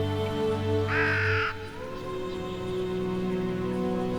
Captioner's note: gentle music; bird cawing; gentle music